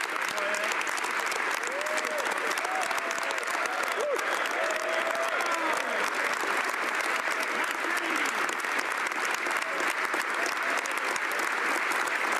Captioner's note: some Applause; applause